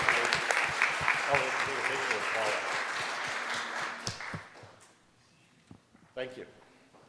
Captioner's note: audience applauding